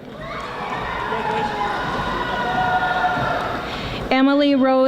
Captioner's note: audience applauding